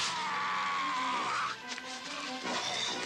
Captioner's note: man screaming; dramatic music